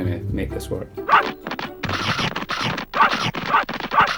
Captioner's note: dogs barking